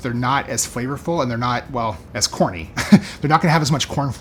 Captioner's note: chuckles